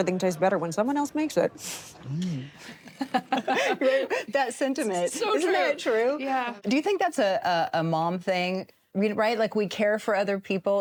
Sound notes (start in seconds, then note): 2.6 snickers; 2.6 laugh